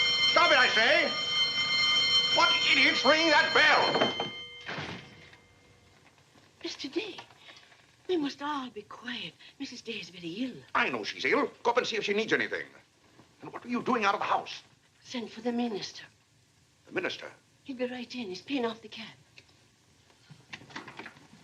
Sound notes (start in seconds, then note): 4.2 ringing stops